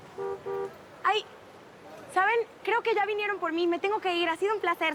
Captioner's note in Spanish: Claxon